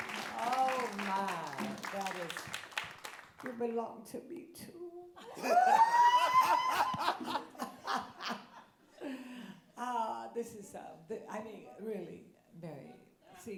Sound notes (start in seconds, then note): 5.2 laughs